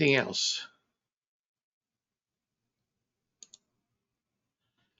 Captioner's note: mouse clicking